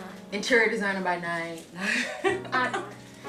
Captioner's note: laughs